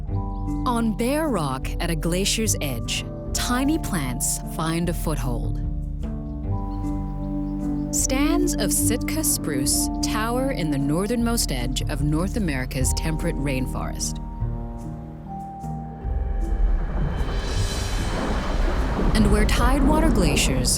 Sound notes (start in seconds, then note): 16.0 rumbling and splashing